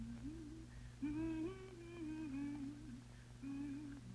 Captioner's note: woman humming